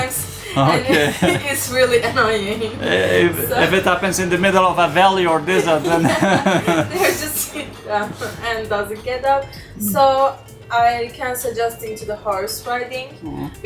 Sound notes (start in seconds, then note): 7.0 laughing